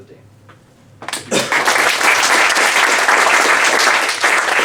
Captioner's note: applause